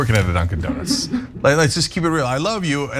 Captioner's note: laugh